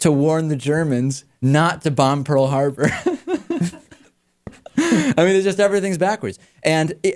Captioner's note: laughs